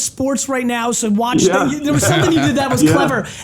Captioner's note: laughs